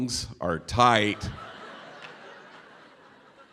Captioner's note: laughter